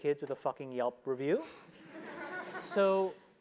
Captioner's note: laugh